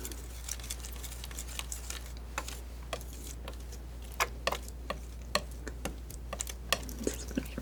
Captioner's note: tapping